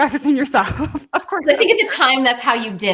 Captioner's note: laughs